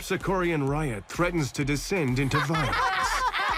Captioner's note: sinister laughter